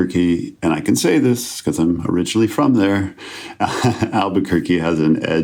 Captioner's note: chuckles